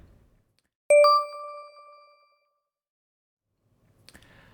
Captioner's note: beeping